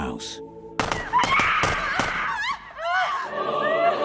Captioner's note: gunfire, and screaming